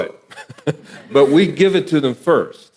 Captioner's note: audience laughing